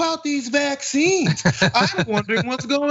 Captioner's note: laugh